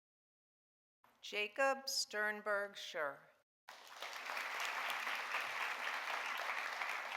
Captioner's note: audience applauding